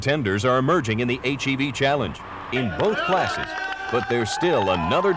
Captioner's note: cheering and applause